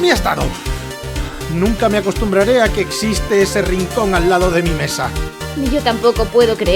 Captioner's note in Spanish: Respiro